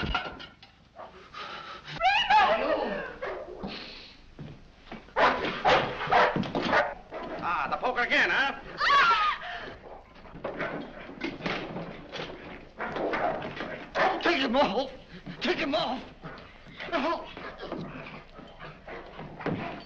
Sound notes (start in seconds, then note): 5.1 barking; 8.8 screams; 10.8 dog growling